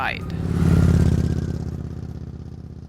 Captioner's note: bike burbling